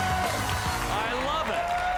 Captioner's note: cheers and applause